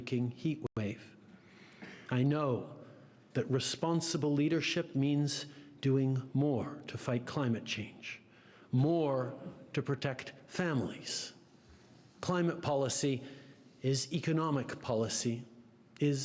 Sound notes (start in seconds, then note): 2.3 speaking French